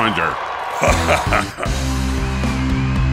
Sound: evil laughter

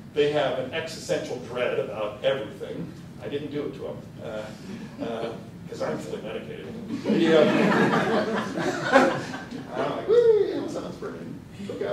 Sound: laughter

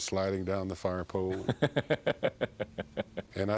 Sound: laughs

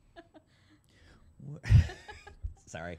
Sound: laughter

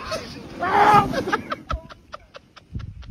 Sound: Mirabel Laughing

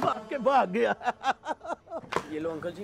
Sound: laughing

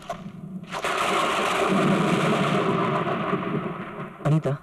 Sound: thunder crashing

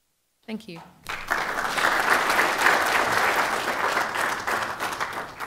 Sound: applause

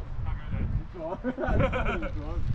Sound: laughs

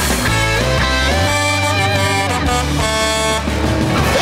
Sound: Blaze honking

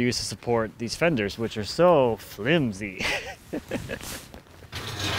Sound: laughs

